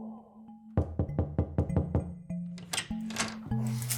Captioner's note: door knocking